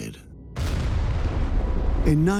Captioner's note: sound of explosion